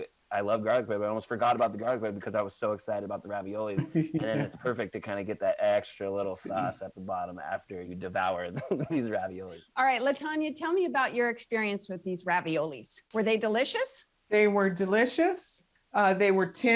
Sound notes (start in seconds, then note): 3.3 laughs